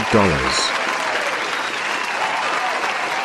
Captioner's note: audience Cheering